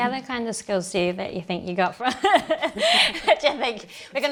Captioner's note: laughs